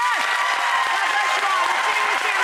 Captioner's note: applause